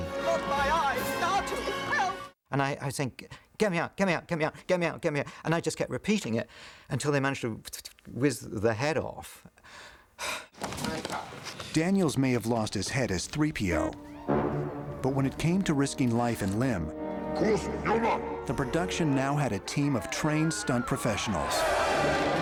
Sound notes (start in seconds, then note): 9.6 exhales